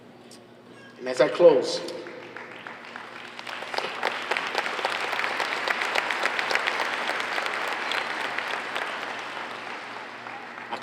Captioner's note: applause